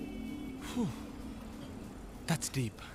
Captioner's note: Sighs